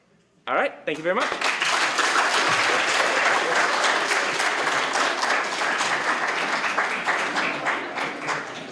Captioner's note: applause